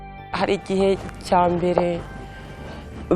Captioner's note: speaking in Kinyarwanda